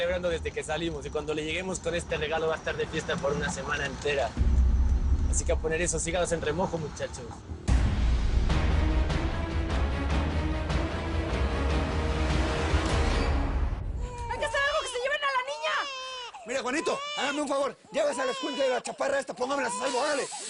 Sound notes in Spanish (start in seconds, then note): 13.9 Llanto del bebé